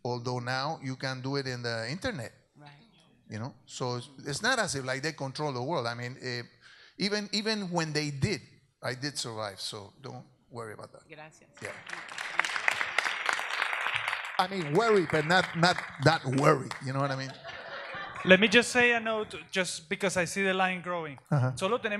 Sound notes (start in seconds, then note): 11.6 audience applauds; 21.7 speaks in Spanish